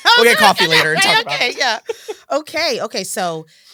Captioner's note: laughter